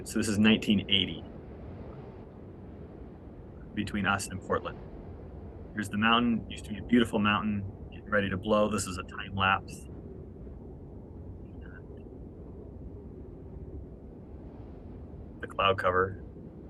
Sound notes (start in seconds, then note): 9.7 wind blowing